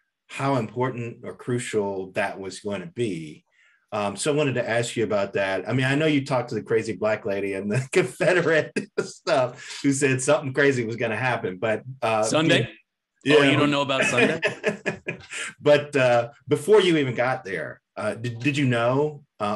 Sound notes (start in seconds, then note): 7.7 laughing; 13.4 laughs